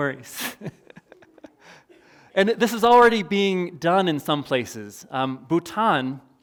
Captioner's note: chuckles